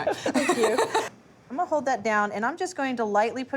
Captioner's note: laughing